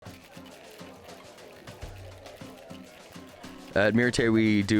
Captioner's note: people murmuring; upbeat music